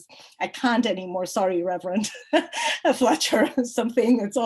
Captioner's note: chuckles